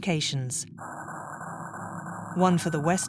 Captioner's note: frequency humming